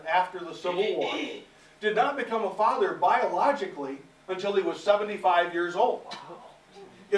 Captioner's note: audience - wow